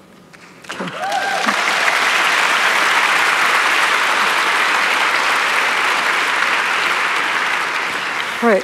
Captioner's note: applause